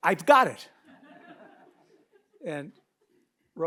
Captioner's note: audience laughs